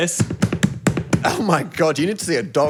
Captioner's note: box thudding